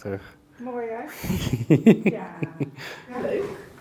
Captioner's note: laughs